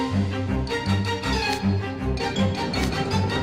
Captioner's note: creak…